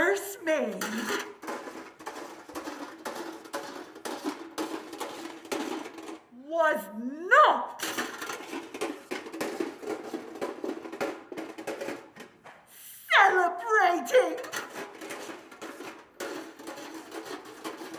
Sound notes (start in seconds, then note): 2.6 bucket rattle; 8.5 bucket rattle; 13.6 bucket rattle